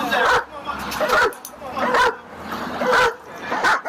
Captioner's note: dog barks